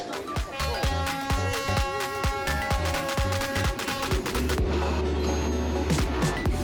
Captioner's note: train sounds! Baaaaaaaaaaaaaaa!!!